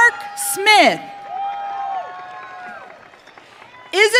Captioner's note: audience cheering